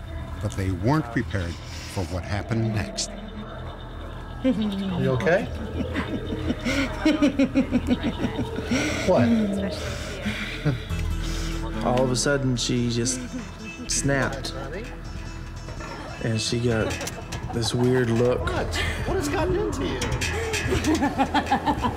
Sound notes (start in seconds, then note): 5.5 laughing